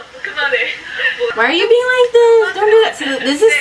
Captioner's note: whiny voice